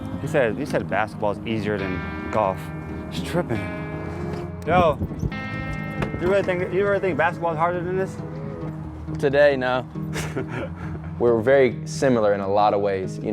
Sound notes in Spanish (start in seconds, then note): 10.1 se ríe